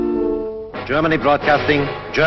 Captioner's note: radio broadcast